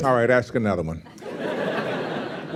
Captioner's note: laughter